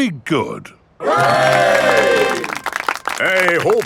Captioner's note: clapping